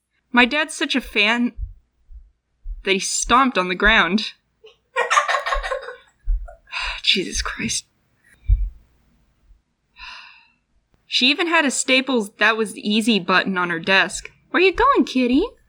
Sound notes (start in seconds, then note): 2.6 stomp; 4.9 laughs; 6.4 sigh; 8.4 stomp